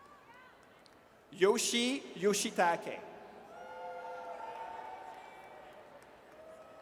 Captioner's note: audience cheers